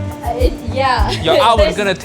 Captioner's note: chuckles